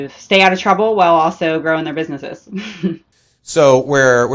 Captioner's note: chuckles